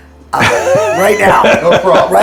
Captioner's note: laughs